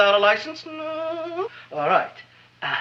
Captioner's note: Seymour whimpers